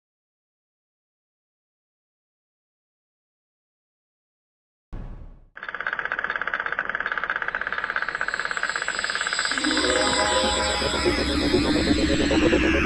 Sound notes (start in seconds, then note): 5.6 clacking; 5.8 whirring; 9.4 mysterious music